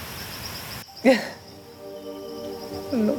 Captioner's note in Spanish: Sollozos